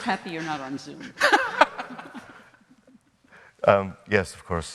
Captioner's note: all laughing